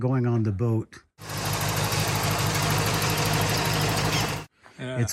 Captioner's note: car engine roaring